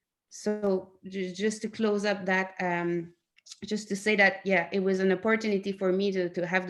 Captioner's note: in English